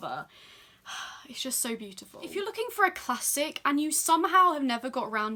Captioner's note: sigh